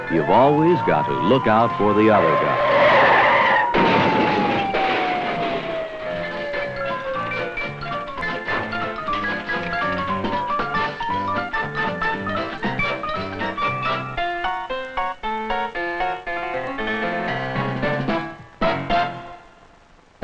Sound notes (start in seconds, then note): 3.3 tires screeching; 4.2 crashing; 6.3 playful music